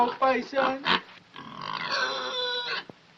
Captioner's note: squeals